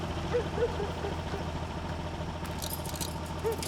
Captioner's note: truck engine rumbling; dog barking